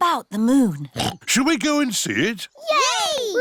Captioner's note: oinks